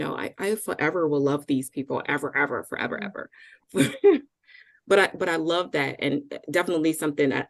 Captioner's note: chuckle